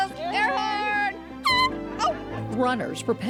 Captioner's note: air horn blows